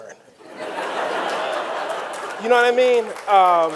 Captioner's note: audience laughing